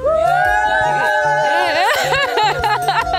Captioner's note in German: Crew jubelt; lacht